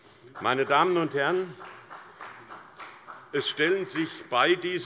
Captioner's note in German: Beifall bei der SPD